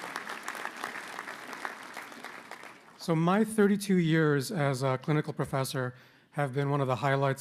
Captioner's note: applause